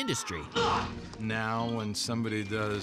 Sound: hollers

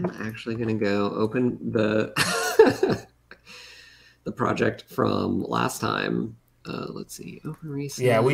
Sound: laughs

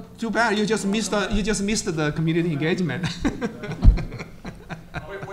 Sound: laughs

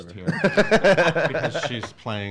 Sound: laughs

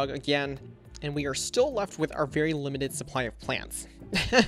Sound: laughs

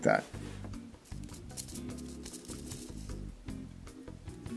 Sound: seeds rustling

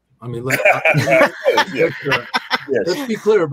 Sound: laughs

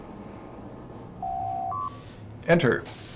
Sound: door Chime

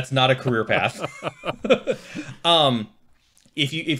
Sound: laughing

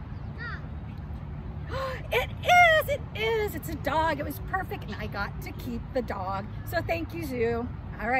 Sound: gasps

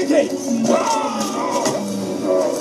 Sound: screams

